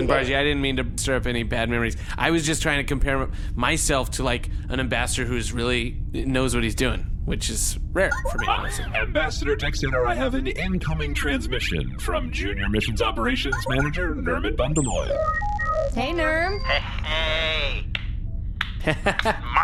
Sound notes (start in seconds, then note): 8.1 incoming transmission sound; 16.0 beeping as comms link is established; 18.8 Pleck laughs in acknowledgment; 19.1 clapping